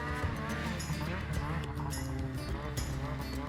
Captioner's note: snowmobile engine accelerating